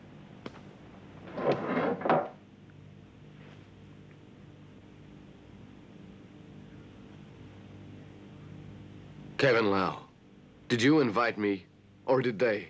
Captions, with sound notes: (clattering) - Kevin Lau, did you invite me or did they?